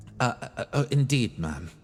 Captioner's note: none